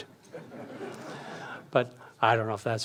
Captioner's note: audience laughs